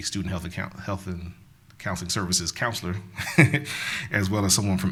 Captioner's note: laughs